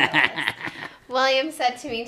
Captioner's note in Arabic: يضحك